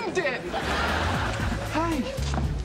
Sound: audience laughing

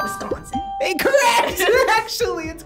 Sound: buzzer chimes; bell chimes; laughs

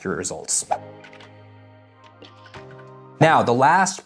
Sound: light music; text whooshing

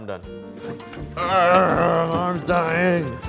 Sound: grunting

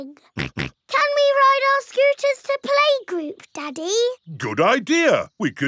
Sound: snorts

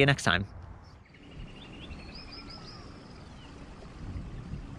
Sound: birds chirping

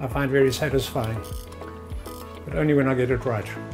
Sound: clock winding

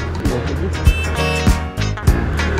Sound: honking

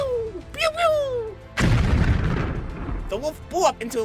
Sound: explosion

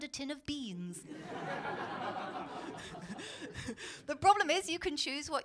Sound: laughter

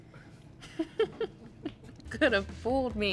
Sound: Madelyn laughs

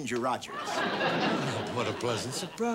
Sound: audience laughing

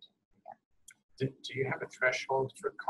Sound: voiceover

